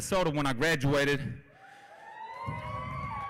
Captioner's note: applause